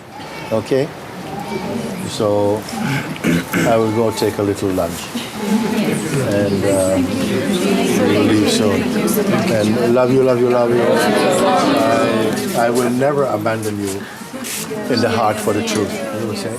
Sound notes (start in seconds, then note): 5.3 Voces en el público